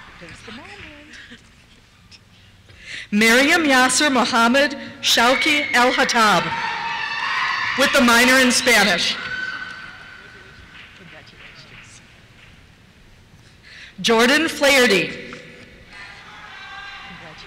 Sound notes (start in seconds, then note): 0.1 laughs; 5.1 cheers; 7.7 voiceover; 15.9 cheers